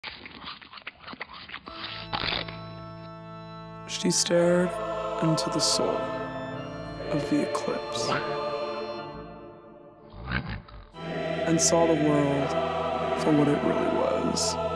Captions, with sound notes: She stared into the soul.... of the eclipse... *snoring* And saw the world for what it really was...